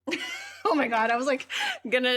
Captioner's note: laughs